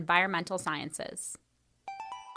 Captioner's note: chime